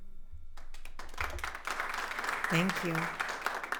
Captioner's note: attendees applauding